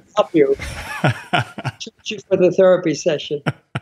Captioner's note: laughing